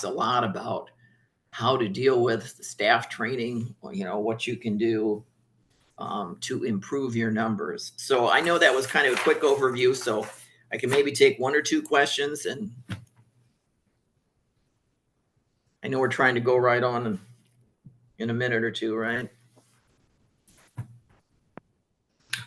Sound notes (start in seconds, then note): 8.2 papers shuffling; 14.1 pause